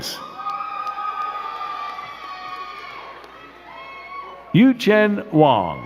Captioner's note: crowd cheering and clapping